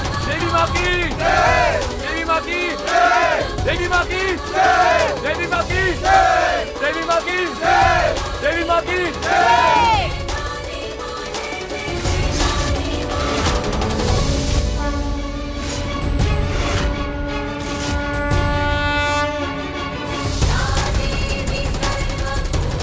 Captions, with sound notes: - Hail the Goddess! - Hail the Goddess! - Hail the Goddess! - Hail the Goddess! [conch blowing] [devotional song]